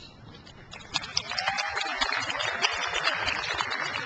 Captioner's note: crowd applauds